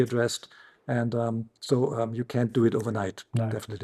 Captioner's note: snaps fingers